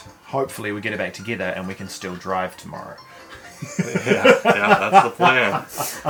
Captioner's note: laughter